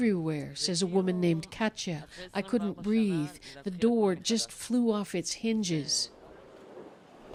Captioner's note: speaking alternate language